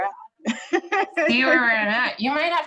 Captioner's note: both laughs